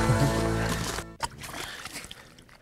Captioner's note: splash